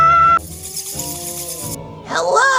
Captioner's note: screams; bats flying